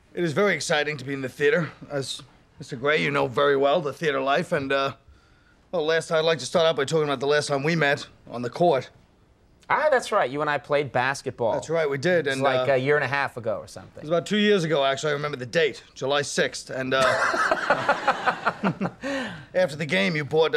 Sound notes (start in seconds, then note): 17.0 Conan laughing